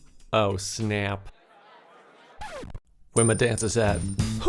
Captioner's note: group chatting